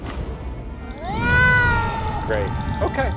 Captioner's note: cat meowing